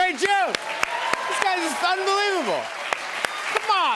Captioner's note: cheers and applause